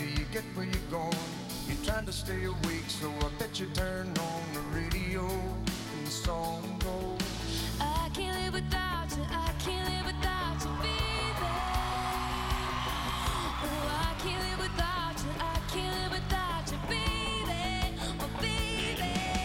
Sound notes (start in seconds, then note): 12.9 cheering